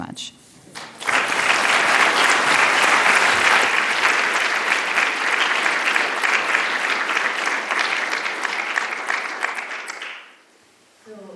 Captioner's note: applause